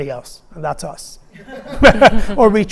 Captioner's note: laughing